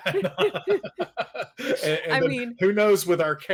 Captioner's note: both laugh